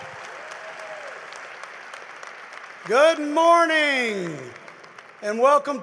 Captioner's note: applause